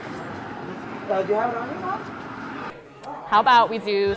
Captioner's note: people talking in background